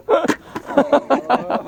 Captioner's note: laughing